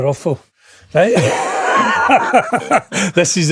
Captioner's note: laughing